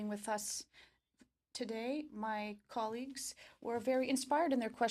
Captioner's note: speaking French